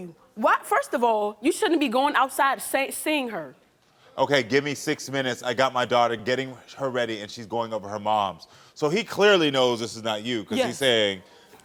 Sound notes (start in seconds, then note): none